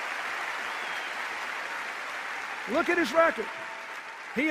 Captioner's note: applause and cheers